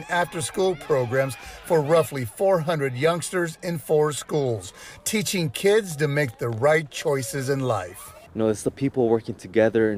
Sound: nat pop kids playing

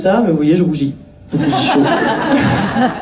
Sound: laughs

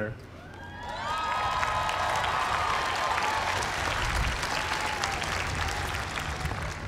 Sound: applause

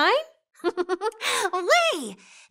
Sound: star giggles

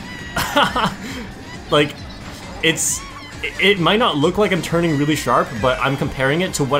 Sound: laughs

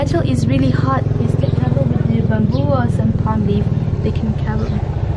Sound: mutters

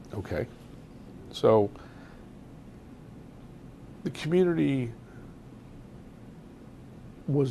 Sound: pauses for 3 seconds

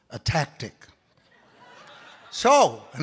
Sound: audience laughs

